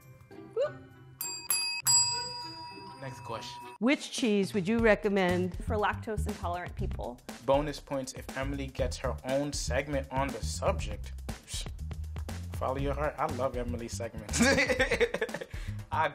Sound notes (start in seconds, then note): 1.2 bells ring; 14.4 laughs